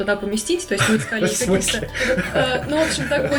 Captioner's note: laugh